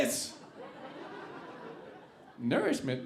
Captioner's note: audience laughing